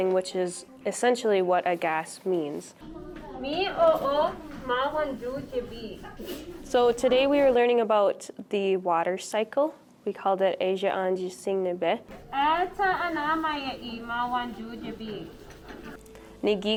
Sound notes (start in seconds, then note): 3.4 speaks Ojibwe; 11.1 speaks Ojibwe